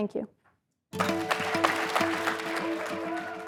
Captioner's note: applause